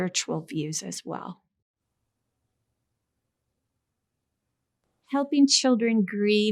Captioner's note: silence